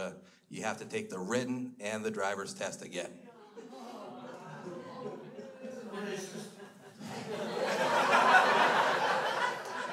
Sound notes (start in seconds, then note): 3.7 crowd groans; 7.2 crowd laughs